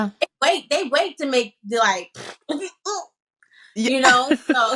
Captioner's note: blows raspberry